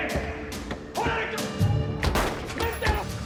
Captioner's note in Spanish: Disparos; Disparo